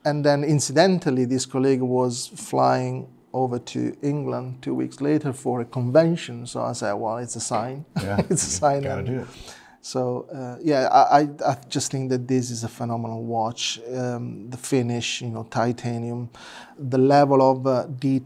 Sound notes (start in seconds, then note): 7.9 chuckles